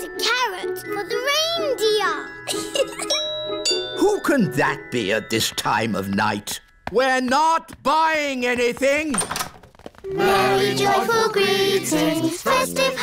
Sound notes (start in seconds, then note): 2.4 giggles; 3.0 doorbell rings